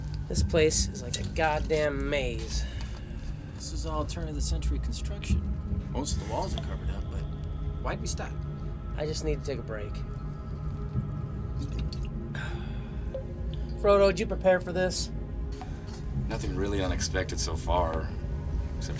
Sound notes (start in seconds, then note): 12.4 suspira